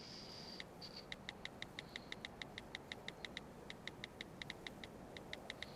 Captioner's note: onscreen keyboard clicking